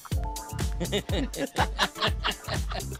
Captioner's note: both laugh